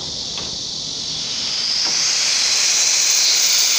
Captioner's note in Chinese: 空氣被冷媒擠出高壓管的聲音